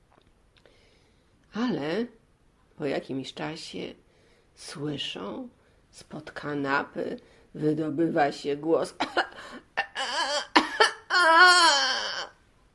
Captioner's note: coughing noises